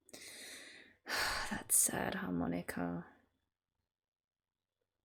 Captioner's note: sigh